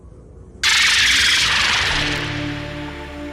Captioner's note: Loud Bahro screech